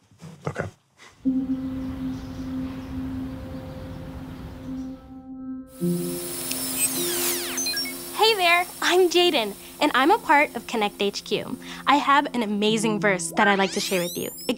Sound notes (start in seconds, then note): 1.1 subdued music; 5.8 electronic buzzing